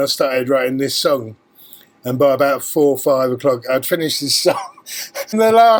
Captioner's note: laughs